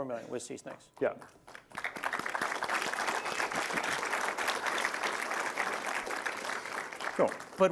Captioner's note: applause